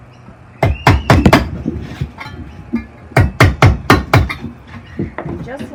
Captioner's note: bangs in nails with hammer